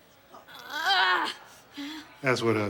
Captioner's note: groans